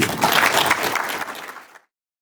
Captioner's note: applause